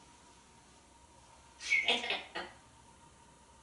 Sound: laughing

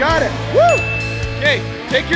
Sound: ding

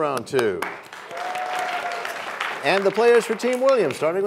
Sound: applause

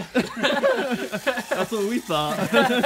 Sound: laughing

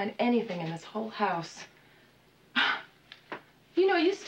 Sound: sighs

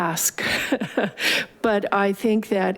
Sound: laughing

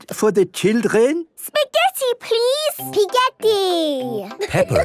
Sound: laughing

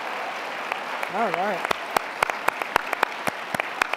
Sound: applause

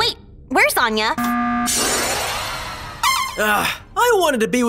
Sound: alarm buzzes

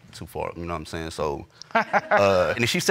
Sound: all laugh

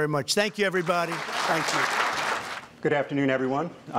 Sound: applause

